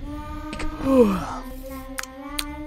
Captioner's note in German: gähnt